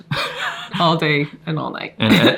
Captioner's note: laughs